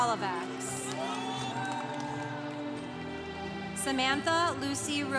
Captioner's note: congregation cheering